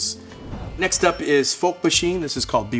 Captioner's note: bell dinging